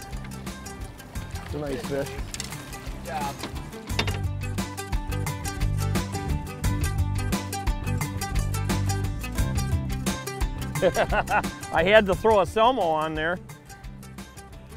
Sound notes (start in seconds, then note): 6.3 upbeat music; 10.7 laughing